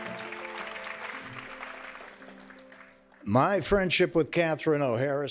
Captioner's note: applause